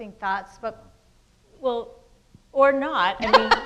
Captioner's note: laughs